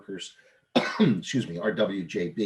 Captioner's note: coughs